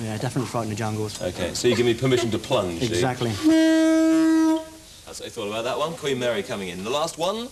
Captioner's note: disapproving horn noise